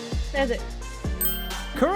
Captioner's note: beep